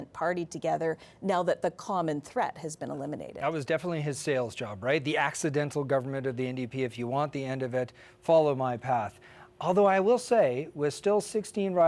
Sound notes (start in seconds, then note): none